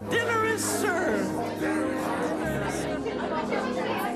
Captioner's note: lively chatter